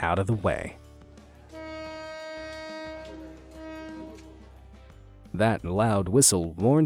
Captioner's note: train horn honking